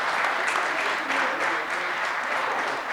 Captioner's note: audience applause